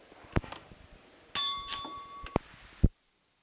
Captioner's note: bell Sound